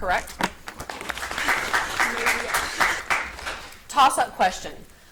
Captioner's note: audience applauds